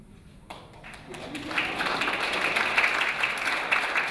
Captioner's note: clapping